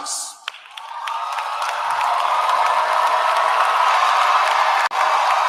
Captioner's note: cheering